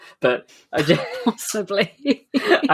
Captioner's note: laughs; laughing